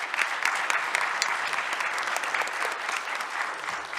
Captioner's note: audience applauds